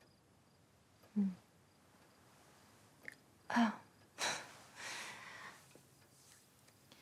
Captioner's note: sighs; laughs